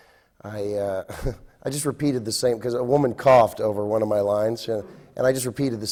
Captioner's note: laughs